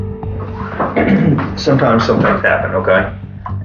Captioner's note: clears throat